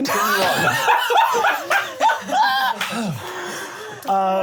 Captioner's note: laughing